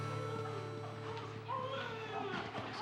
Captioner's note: baby crying